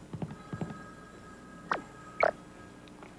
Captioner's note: telephone rings